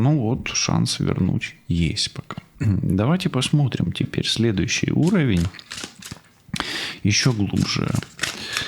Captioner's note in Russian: откашливается